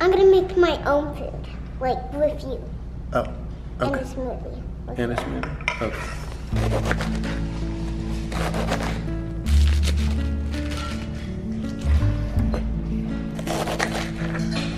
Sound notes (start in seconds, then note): 6.6 light music; 9.5 lettuce crunching; 12.2 light music